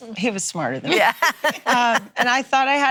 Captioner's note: laughing